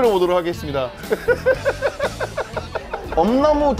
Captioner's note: laughing